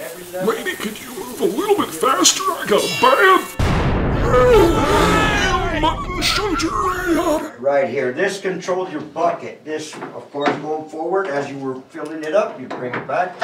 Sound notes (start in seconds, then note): 3.5 explosion; 4.1 screams